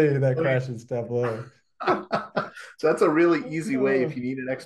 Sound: laughs

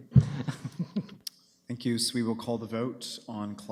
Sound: laughing

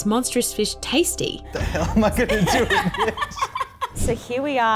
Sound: laughs

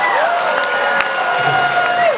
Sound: laughs

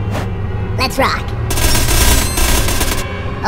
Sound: gun fire

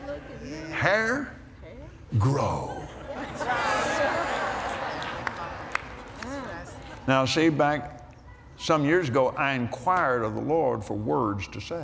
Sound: laughter

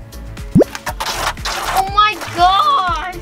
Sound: button clacking; special effects blooping; oil splattering

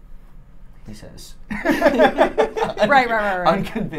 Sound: laughing

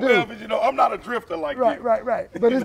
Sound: laughing

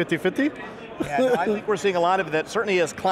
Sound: laughs

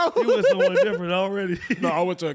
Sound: laughing continues; chuckles

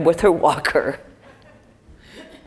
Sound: laugh

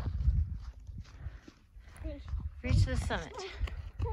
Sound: breathing heavy

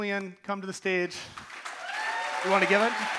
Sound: audience cheering and applauding

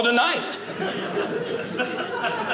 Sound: audience laughing

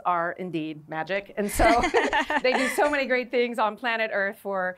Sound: laughter

